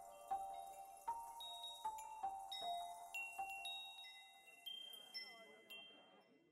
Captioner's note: chimes jingling